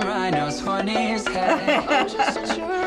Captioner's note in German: lacht